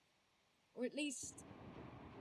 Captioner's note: distant thunder